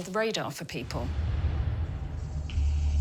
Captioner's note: eerie noises